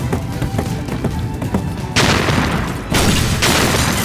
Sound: thudding

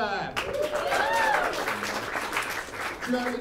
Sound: applause

